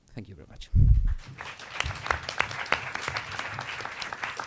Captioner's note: audience applauds